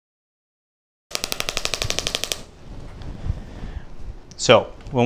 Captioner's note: applicator clicks rapidly